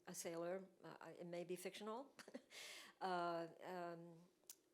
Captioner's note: chuckles